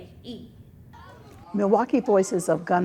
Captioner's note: people chattering